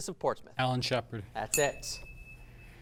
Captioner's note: ding sound